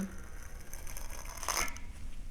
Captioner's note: sound of wood fibers compressing